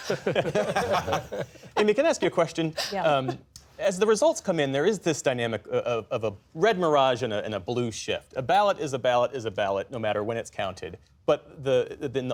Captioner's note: laughter